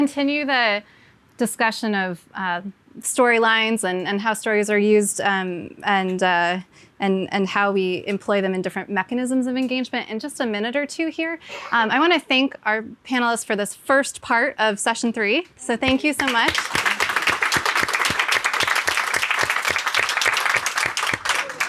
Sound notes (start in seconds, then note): 16.1 audience clapping